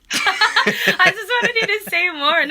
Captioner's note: laughter